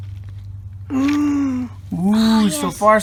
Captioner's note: gasps dramatically